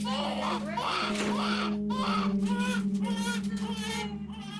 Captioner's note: baby crying